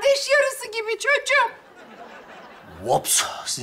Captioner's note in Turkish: Gülme efekti